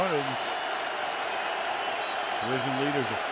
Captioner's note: cheering